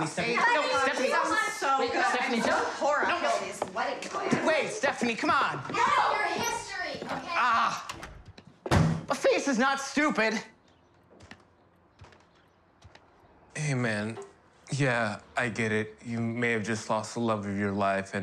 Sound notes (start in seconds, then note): 8.6 door slamming; 11.0 birds chirping; 12.4 footsteps pounding